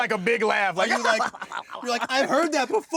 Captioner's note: imitating laugh